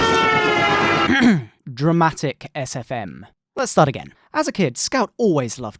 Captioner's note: a-hem